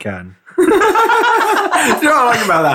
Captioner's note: swedish laughing